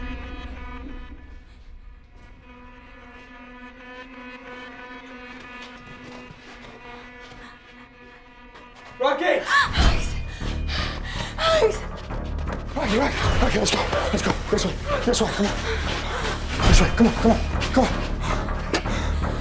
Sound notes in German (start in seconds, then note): 5.0 schlurfende schritte